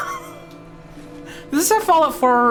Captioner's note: laughs